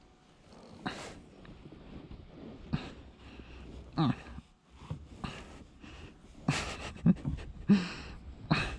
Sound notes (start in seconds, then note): 3.9 grunts; 6.4 chuckled softly